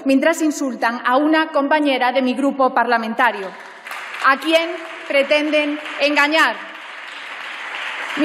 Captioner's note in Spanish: Aplausos